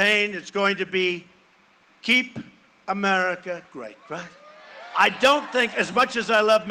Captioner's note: cheering and applause